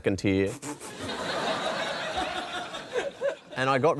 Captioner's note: laughter